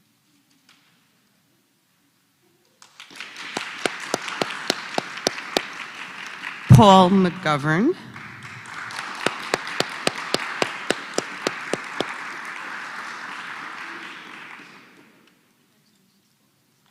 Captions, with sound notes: [APPLAUSE] >> Paul McGavan. >> [APPLAUSE]